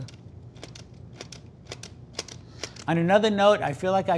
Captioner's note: trigger rattles